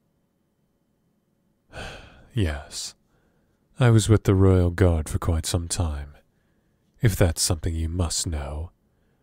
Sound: sighs

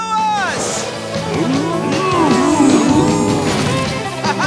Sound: mooing

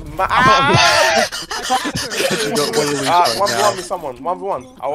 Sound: laughter

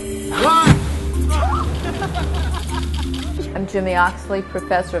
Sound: explosion

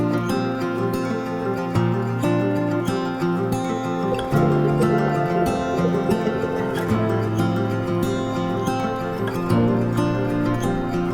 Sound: applause

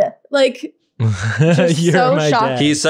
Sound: laughing

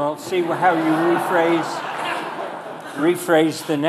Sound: audience laughing

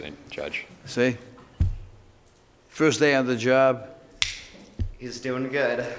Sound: snaps

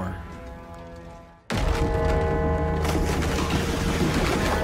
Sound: smash

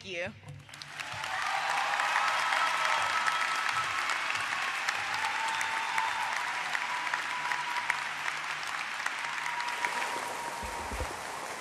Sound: applause

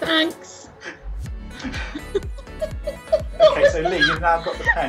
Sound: laughing

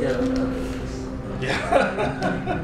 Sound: laughter

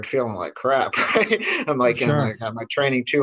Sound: laughs

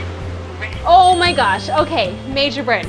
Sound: timer rings

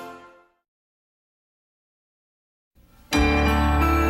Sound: optimistic music plays; silence; 90s news flash music playing

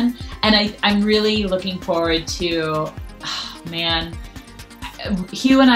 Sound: exhales loudly

